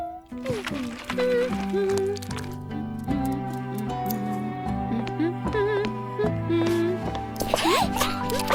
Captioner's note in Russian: напевает мелодию